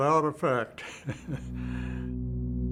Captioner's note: Jack chuckles; intense ambient music